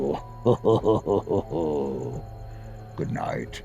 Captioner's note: chuckles